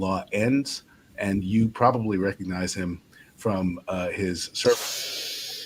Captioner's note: audio distorts